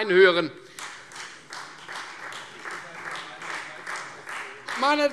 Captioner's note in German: Beifall